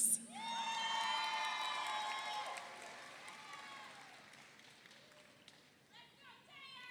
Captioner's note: audience cheers; audience applauds